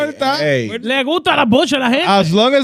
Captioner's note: speaking Foreign Language